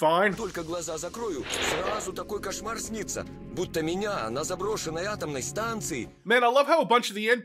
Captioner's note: random Stalkers speaking Russian